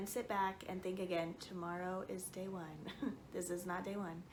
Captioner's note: chuckles